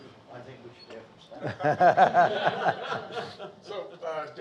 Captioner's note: audience laughing